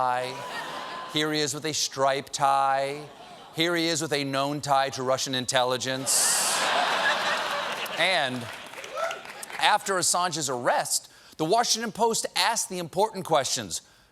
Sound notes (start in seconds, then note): 6.0 laughter